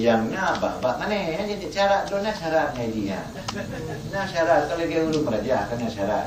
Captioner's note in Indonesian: bahasa Aceh